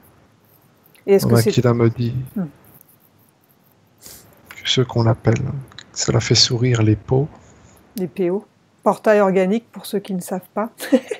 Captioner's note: laughs